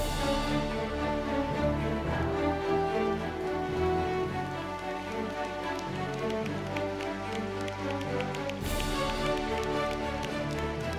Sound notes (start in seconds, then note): 0.2 orchestral music; 4.6 applause